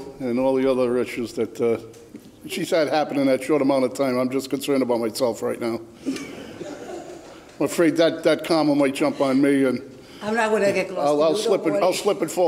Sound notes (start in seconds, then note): 6.1 laughter